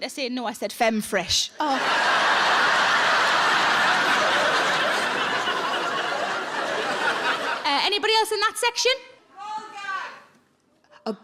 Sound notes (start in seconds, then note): 1.6 audience laughs